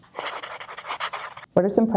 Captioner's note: pen writing on paper